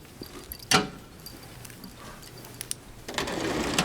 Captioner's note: metal clanking